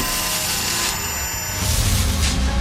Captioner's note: electronic distortion